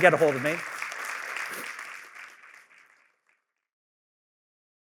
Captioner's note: applause